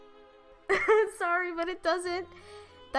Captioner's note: laughter